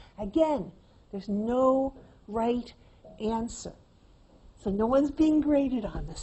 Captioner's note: none